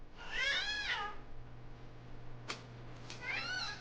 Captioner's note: baby squealing